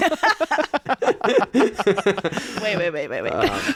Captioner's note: laughing